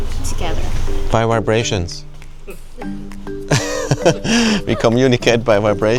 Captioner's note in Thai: เสียงหัวเราะ